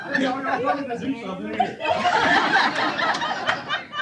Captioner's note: laughter